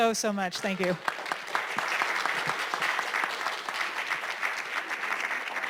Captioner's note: applause